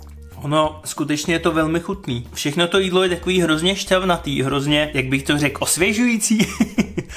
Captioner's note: laughter